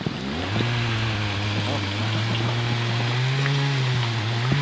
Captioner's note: motorbike roaring